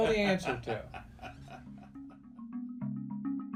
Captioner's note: laughs